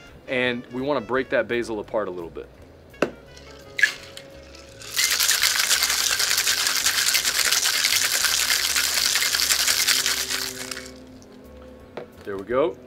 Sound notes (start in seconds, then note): 3.3 ice clattering; 11.7 shaker tapping